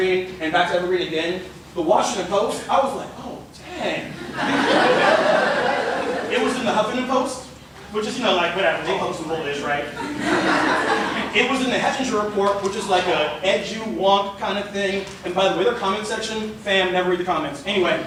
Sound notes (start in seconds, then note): 4.1 laughter; 9.9 laughter